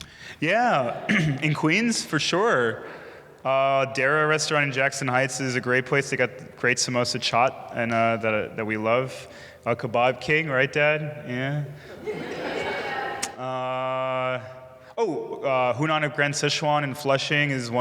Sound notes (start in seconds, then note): 11.8 audience laughing